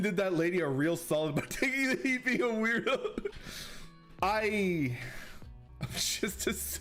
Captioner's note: sighs